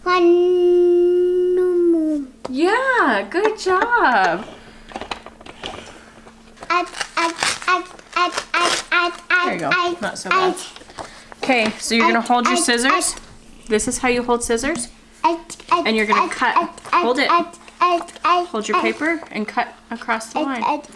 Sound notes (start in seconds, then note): 0.4 hums throughout; 6.6 babbles repetitively over; 15.6 continues babbling